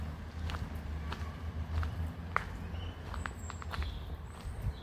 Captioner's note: footsteps